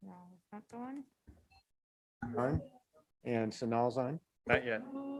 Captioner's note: members chatting